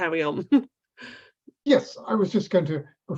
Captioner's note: chuckles